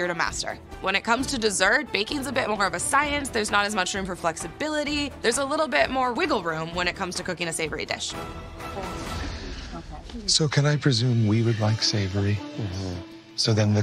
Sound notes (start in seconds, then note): 8.3 muted chatter